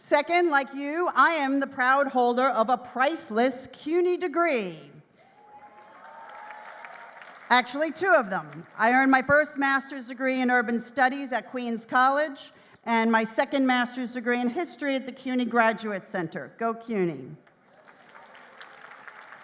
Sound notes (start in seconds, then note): 5.3 applause; 19.2 applause